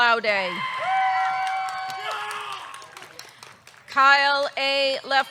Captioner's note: audience cheering; audience clapping